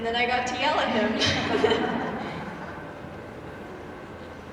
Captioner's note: all laughing